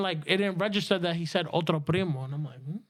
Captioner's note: speaking In Foreign Language